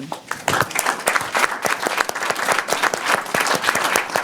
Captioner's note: audience applauding